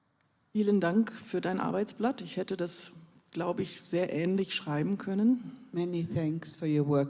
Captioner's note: in German